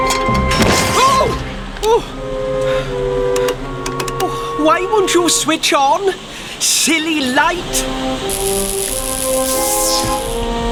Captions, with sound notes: [ Loud Sparking ] OWW! OH! [ Click! Click... ] OOH, WHY WON'T YOU TURN ON? SILLY LIGHT... [ Light Buzzes ]